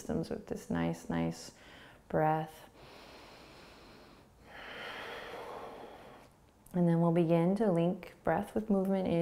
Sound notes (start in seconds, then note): 2.8 inhaling; 4.4 exhaling